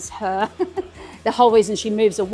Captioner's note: laughs